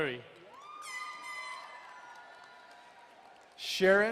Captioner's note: crowd cheering and horn blaring